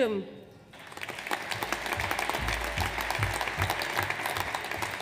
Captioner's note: audience applauds